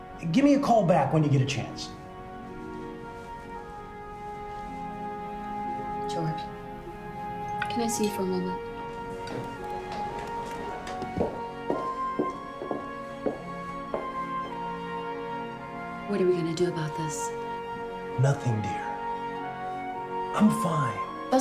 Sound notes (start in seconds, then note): 11.6 heels clattering